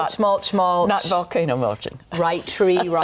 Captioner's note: chuckles